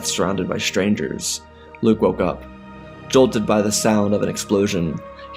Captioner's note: heavy breathing